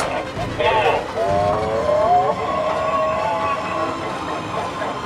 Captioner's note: chopper sounds